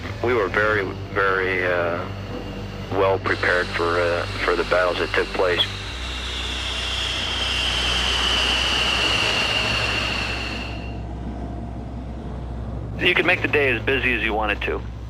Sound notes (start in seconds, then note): 7.9 plane noise